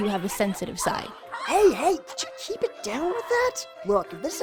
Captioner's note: Yolko, Kains, and Schmitt and Grimlock get louder